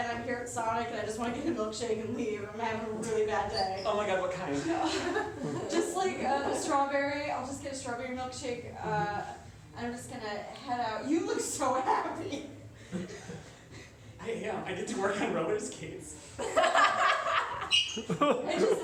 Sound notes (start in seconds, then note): 11.3 sobbing; 16.4 laughter